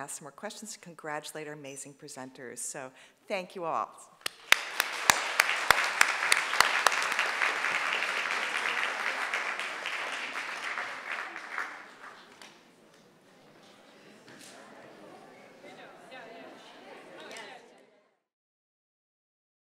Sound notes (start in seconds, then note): 4.2 audience applauding